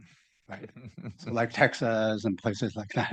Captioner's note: laughing